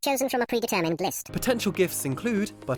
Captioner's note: voiceover